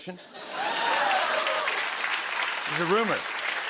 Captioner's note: cheering and applause